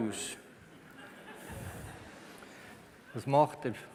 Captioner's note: laughter from the audience